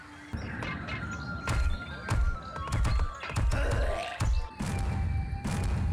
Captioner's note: punchy thudding; loud bashing